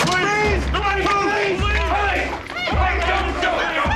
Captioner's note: officers yelling